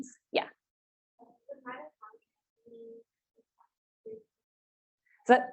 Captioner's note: participant faintly speaking